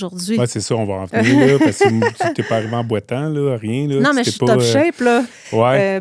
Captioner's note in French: rires